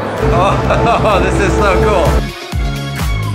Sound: chuckling

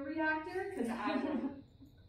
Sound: laughter

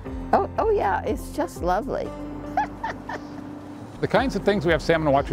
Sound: laughs

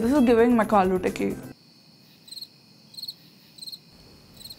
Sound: crickets chirping

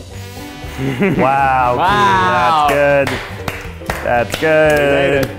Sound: clapping

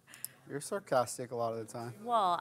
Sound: voiceover

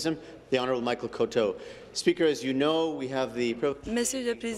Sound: speaking in French

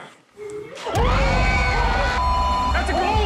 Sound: screaming

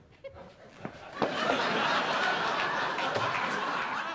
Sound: laughter

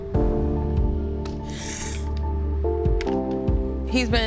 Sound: inhales audibly

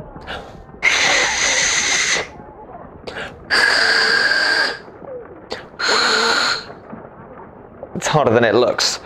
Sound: hissing noises

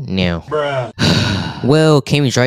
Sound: sighs Angrily

